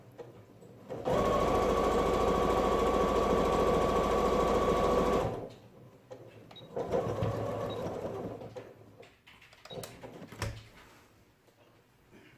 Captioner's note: sound of sewing machine